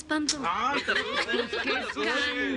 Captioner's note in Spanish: Risas